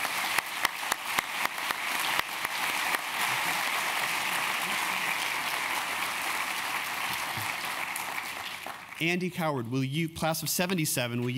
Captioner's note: applause